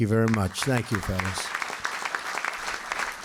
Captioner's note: applause